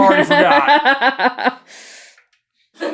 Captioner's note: laughing